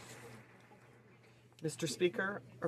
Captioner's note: speaking French